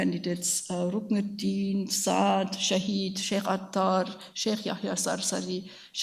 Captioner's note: speaks in a foreign language